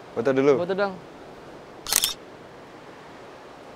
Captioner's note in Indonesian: shutter kamera